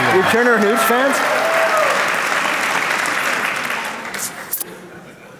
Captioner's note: applause